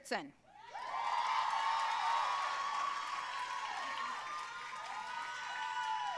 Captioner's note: audience cheering and applauding